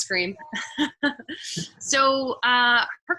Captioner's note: chuckling